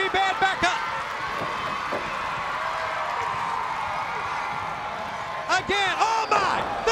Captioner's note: crowd cheering